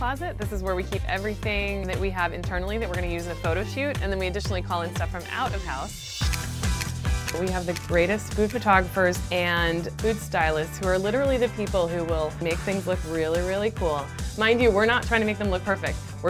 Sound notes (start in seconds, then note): 6.6 upbeat music; 6.7 camera clicks